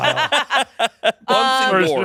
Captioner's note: everyone laughing